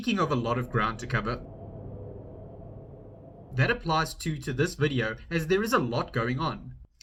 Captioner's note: wind blows